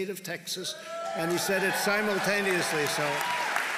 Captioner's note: applause